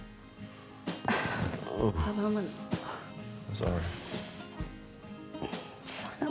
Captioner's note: exhales